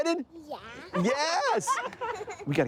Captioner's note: laughing